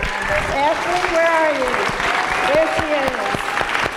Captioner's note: applause, cheers